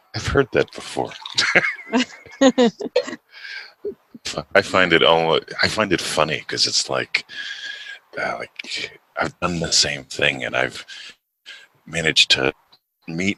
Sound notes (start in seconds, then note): 0.0 laughs; 0.9 both laughing